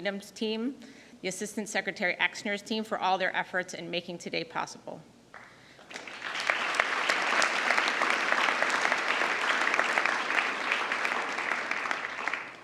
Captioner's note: applause